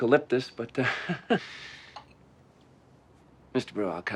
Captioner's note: chuckling